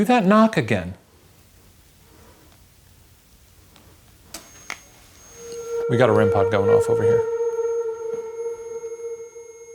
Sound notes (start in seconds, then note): 5.1 REM-Pod beeping; 5.4 tense music